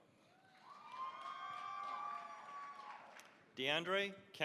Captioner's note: cheering, applause